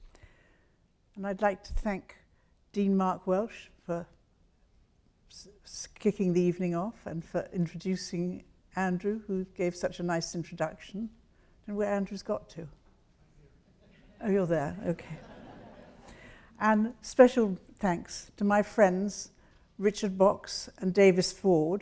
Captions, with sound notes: I'd like to thank Dean Mark Welsh for kicking the evening off and for introducing Andrew, who gave such a nice introduction. Where Andrew's got to? Oh, you're there, okay. (audience laughs) And special thanks to my friends Richard Box and Davis Ford